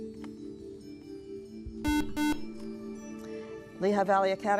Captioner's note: buzzer